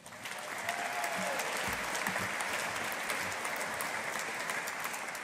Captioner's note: audience applauding